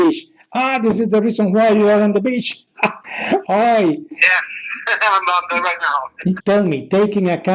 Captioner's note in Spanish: reimos